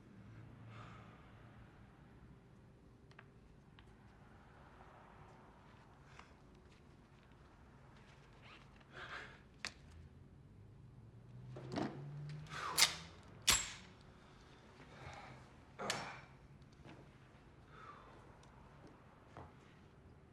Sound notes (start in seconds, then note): 0.2 sighs; 12.5 breathes in; 13.4 gun clocks; 15.8 soft grunt